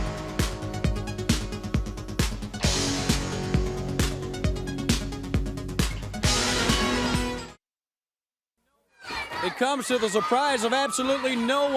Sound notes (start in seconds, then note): 1.6 crowd chatter